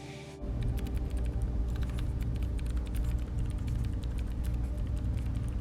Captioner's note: computer keys tapping